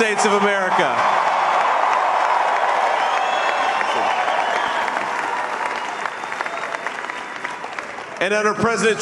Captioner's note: applause